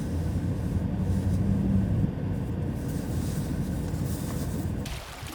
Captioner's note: water splashing